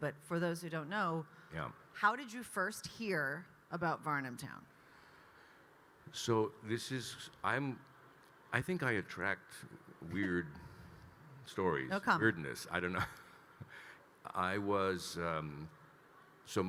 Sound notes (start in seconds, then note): 10.9 laughing; 12.8 chuckles